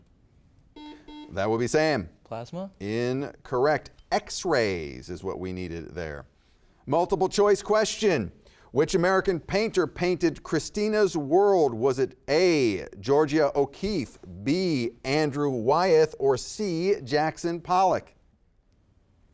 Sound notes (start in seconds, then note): 0.7 buzzer beeping